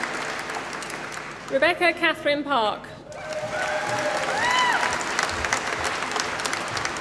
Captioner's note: applause